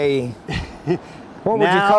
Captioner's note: laughter